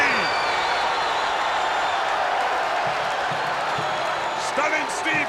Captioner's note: spectators cheering